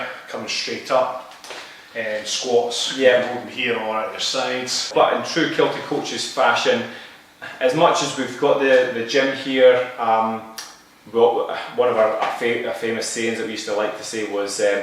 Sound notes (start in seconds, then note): 10.7 tsk